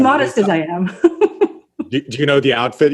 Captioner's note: laughs